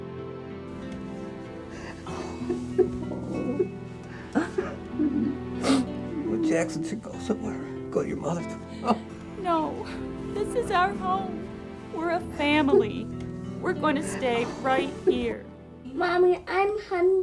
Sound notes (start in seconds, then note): 2.1 Jack crying; 2.1 somber music continues